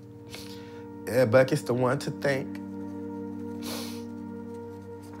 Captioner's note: sobs